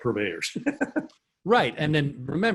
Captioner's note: laughs